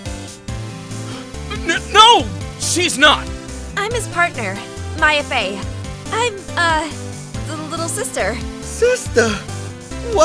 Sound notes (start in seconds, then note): 1.0 gasp!